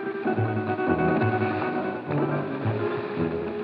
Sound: rustling

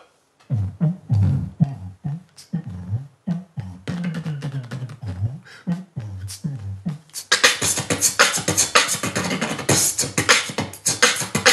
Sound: beat boxing

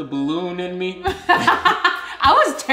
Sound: laughing

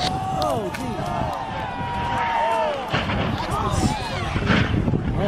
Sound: crowd screaming

